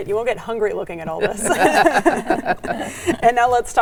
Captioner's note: all laughing